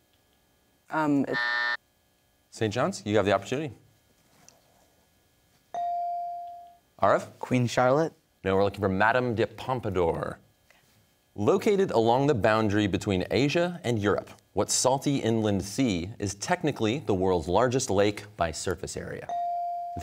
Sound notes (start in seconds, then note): 1.2 buzzer sounds